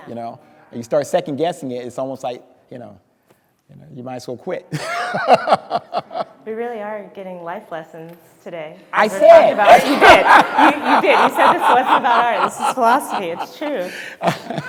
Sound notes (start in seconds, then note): 4.8 speaker laughing; 9.0 crowd laughing